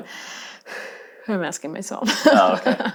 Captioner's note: sighing